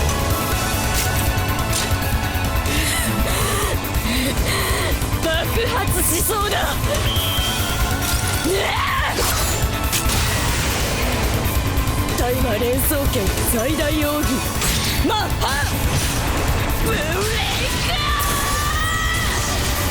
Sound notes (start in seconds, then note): 2.6 maniacal breathing; 8.4 maniacal grunt